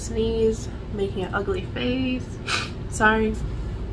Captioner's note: sniffs